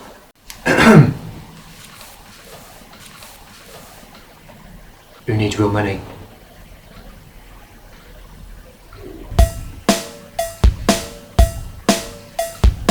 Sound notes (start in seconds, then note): 0.6 clears throat; 9.4 uptempo dance music